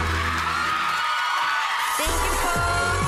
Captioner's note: audience cheering